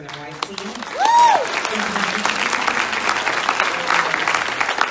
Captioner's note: audience applauds